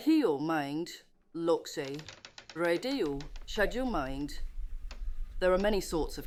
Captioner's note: speaks foreign language